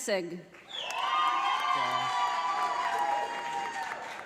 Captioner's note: audience applauding